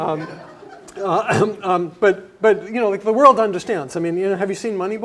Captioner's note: laugh